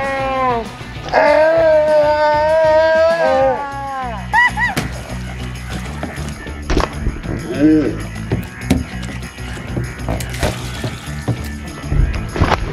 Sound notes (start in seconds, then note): 0.1 girls yelling; 4.4 squeaks; 8.1 water sloshes; 10.2 toys thump